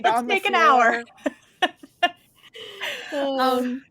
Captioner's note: chuckles